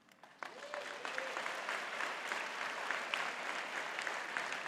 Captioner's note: audience clapping